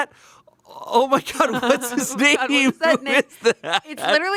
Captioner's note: laughs